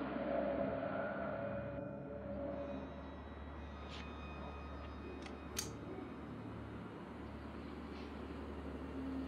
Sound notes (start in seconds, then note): 5.5 gun clicks